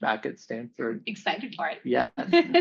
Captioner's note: laughs